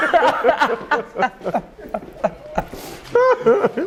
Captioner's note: laughter